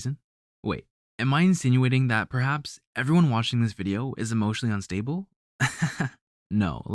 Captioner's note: laugh